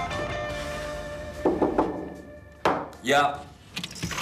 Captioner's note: knocking